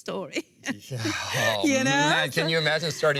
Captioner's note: laughs